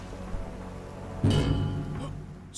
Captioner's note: Secret chime and Hollowed Health pick-up sound